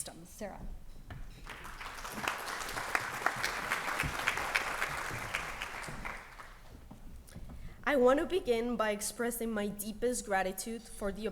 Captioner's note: applause